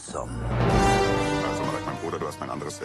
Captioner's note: horns sounds